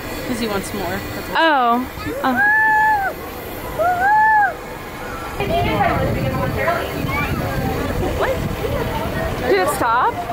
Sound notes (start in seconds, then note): 5.3 ride announcement voice